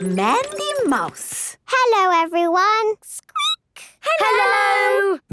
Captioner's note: squeaking